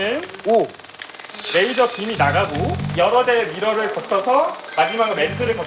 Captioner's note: electric fly swatter-like sound